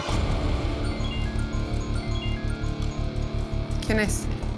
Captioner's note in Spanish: Suena un celular